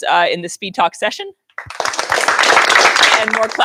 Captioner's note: applause